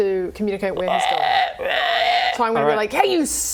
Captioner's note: froggo screams